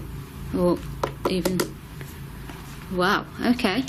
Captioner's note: knocking